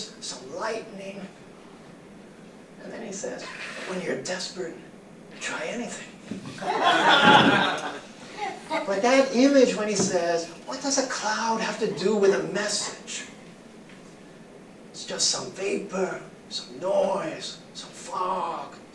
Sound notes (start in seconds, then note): 6.5 laughter